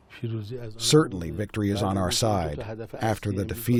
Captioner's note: through translator